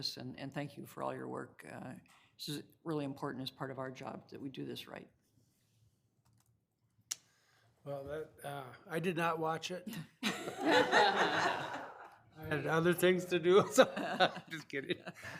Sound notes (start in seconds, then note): 10.2 room laughing